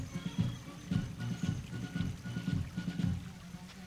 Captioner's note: water babbling